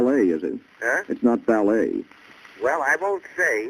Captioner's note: on phone